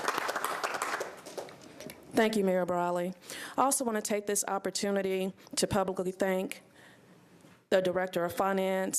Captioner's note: applause